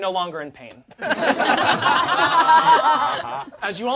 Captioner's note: all laugh